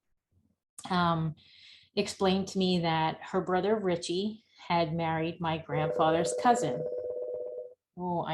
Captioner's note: phone rings